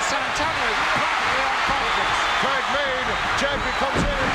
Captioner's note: audience cheering; speaks faintly